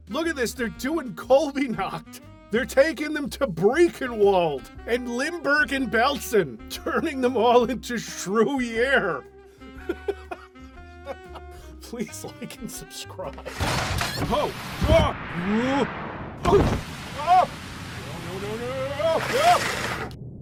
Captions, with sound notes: Look at this, they're doing Colbynacht! They're taking them to Briechenwald! And Limbergen-Belsen! Turning them all into Shrew-yere! *choking back laughter* Please like and subscribe! Oh. No! No! *door opens* No no no no no!